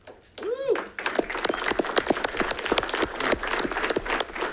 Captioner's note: audience clapping